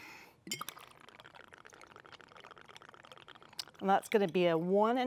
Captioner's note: whisky guggling